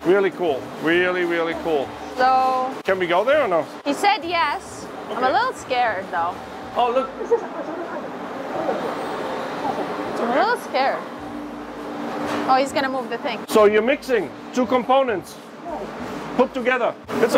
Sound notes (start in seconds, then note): 11.5 machinery humming